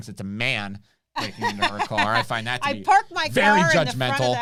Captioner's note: laughs